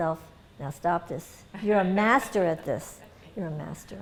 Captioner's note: laughter